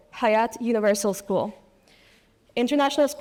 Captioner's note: none